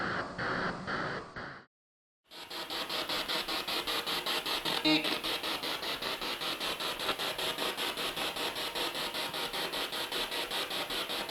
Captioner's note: sound of the Spirit Box in the background